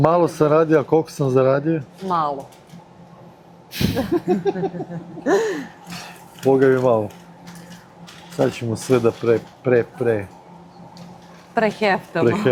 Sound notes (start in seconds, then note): 3.8 laughter